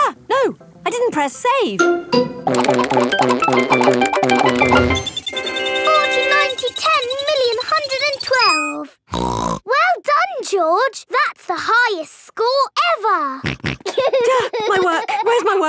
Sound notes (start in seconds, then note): 5.1 beeping; 9.4 snorts; 13.5 snorts; 13.8 giggling